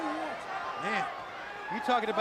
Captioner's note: crowd chatter